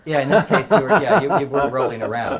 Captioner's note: laugh